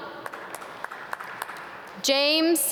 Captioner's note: audience clap